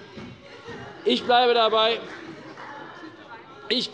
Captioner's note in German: Beifall bei der CDU - Zurufe von der SPD